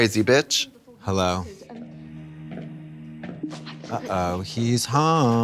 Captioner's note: distant footsteps